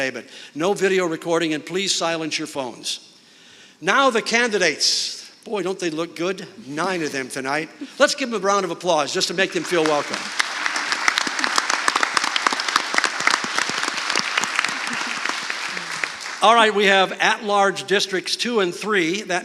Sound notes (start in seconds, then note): 10.6 audience clapping